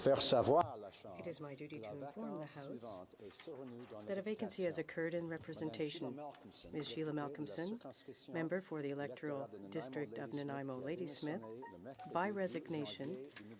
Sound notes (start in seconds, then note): 1.9 speaking French